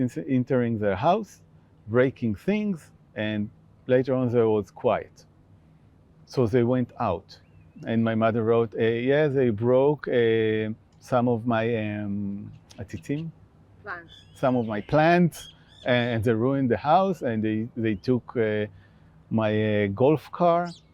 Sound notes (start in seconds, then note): 12.6 hebrew